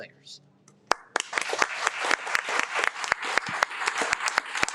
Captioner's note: audience applauding